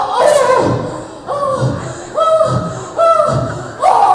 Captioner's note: wheezes